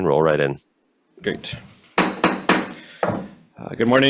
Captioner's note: gavel banging